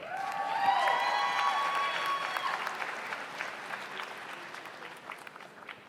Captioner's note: audience cheers; audience applauds